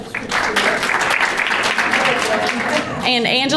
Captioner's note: crowd applauding; background chattering